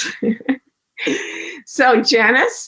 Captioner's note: laughs